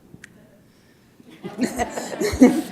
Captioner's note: laughter